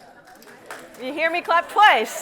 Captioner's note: scattered people clapping